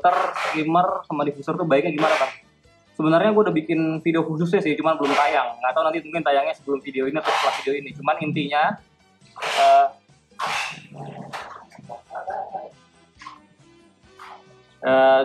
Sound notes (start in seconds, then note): 10.4 annoying sound from sellotape